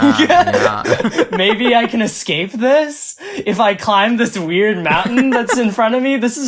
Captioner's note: laughs; laughs